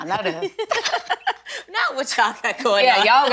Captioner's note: both laughing